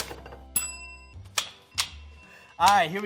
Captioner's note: bell dings